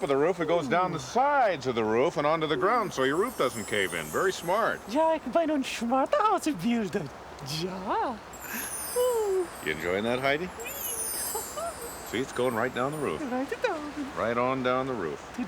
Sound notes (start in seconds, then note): 4.9 speaking german